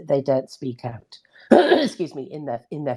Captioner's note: coughs